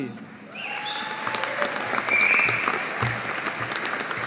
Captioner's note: audience applauding